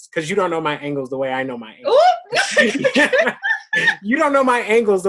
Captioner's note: laughs